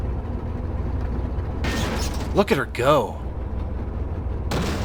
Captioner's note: engine continues; loud clang; another clang